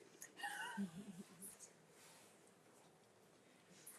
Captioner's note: attendees laugh